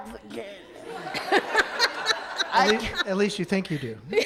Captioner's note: audience laughs; laughs loudly